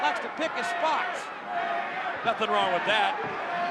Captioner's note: audience chanting